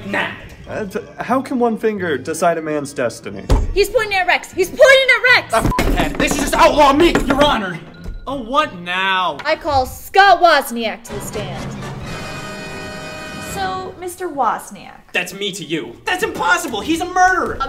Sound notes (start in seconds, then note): 5.6 beep; 10.8 dramatic music